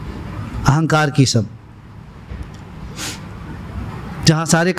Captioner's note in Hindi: नाक से की जाने वाली आवाज़